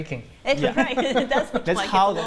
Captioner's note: laughter